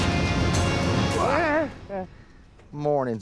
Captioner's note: Zeke exclaims